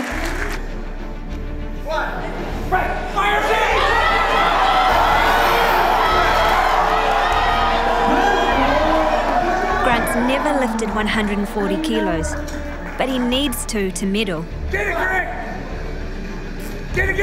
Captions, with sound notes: Fire it up! (Crowd applause) Grant has never lifted 140kgs. But he needs to - to Medal.